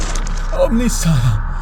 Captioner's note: grunt